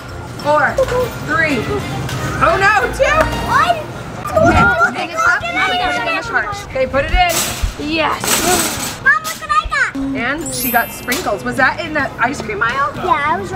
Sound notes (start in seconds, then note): 4.8 talking excitedly